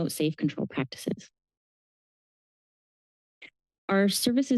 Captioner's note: pause